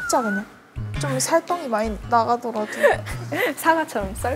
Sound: laughing

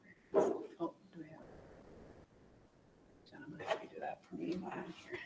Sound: faintly speaking

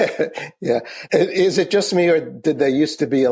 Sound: laughs

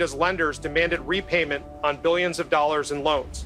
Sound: none

